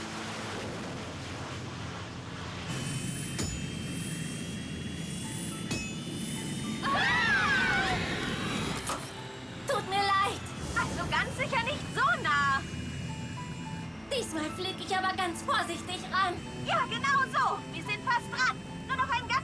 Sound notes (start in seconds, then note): 0.1 engine roaring; 6.8 screaming